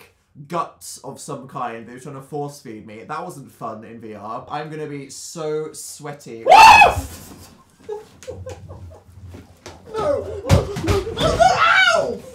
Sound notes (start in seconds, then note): 6.4 screams while falling out of the chair